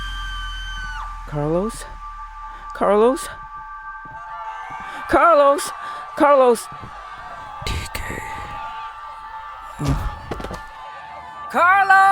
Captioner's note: crowd screaming; crowd in panic